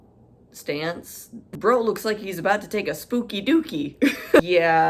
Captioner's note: chuckles